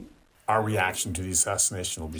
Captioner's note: through translator